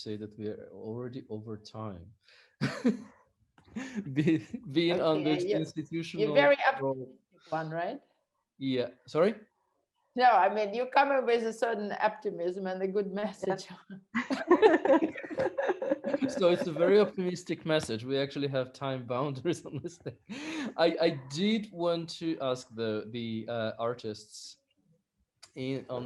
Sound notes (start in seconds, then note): 3.8 laughing; 14.2 all laughing; 19.2 laughing